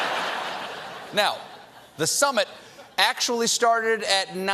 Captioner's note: laughter